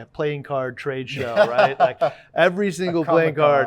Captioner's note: laughing